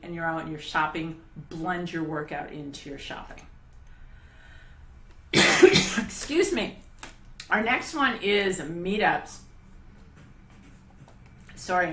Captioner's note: cough